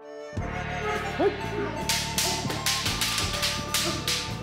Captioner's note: fighters exclaiming